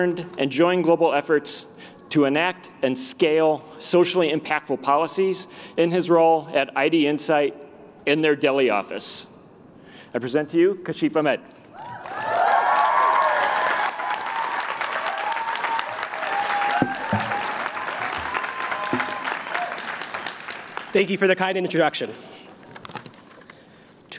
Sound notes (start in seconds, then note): 11.8 cheering